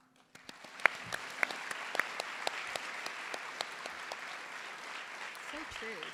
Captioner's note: applause